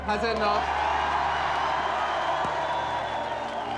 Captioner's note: crowd cheers